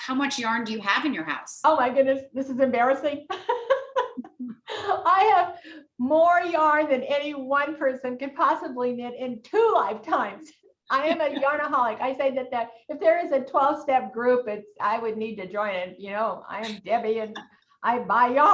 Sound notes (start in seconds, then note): 6.2 laughs